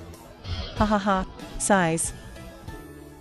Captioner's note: sighs